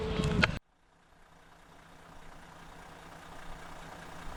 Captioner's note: car engine revving